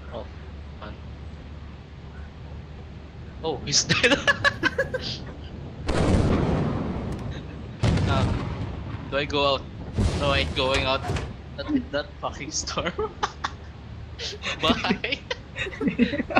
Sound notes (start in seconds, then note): 4.0 laughs; 5.8 lightning strikes in confirmation